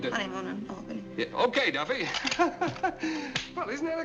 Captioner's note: weak laugh